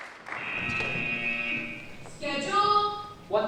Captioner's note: applause; buzzer